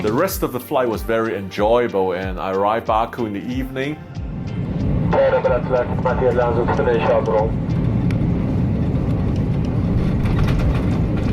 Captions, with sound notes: The rest of the flight was very enjoyable and I arrived in Baku in the evening. (flight announcement over public address system)